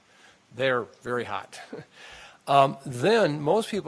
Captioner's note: chuckles